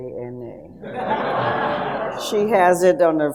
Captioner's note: audience laughs